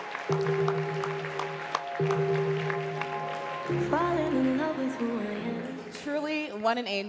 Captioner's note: applause